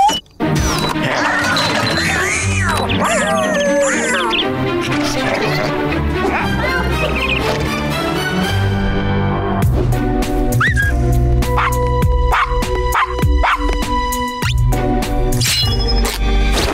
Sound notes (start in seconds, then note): 1.2 yowling; 10.6 whistling; 11.2 barking